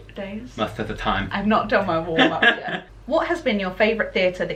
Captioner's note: slurs words; laughter